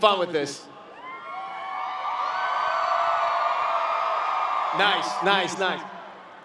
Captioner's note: cheering and Clapping